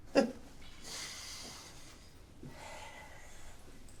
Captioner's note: chuckle; deep sigh